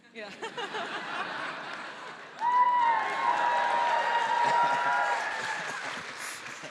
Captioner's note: all laughing; audience applauding